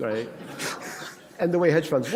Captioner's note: laughter